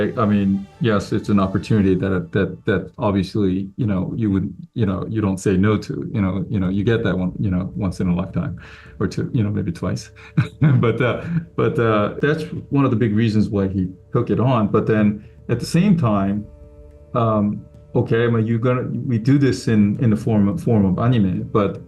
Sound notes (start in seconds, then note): 10.1 laughs